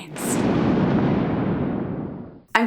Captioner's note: melodramatic thunder